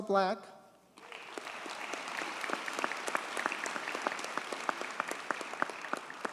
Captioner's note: audience cheers and applauds